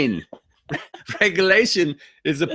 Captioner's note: laughing